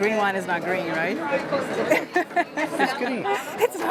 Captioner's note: laughs